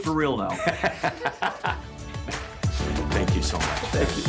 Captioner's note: laughs